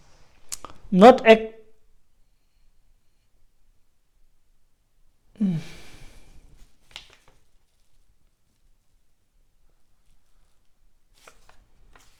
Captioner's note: tibetan